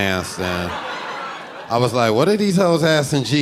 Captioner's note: audience laughing